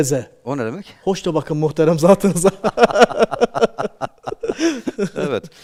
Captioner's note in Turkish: kahkaha